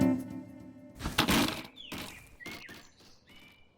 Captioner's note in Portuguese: Sons de grama; Sons de madeira quebrando; Sons de pássaros